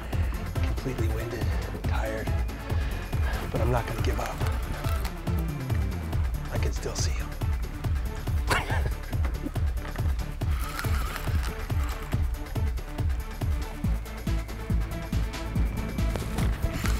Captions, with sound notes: Completely winded. Tired. But I'm not gonna give up. I can still see him. (reel winding) (techno music)